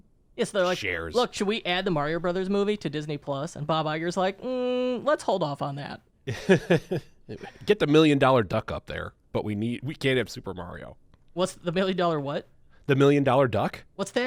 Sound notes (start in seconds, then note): 6.3 chuckles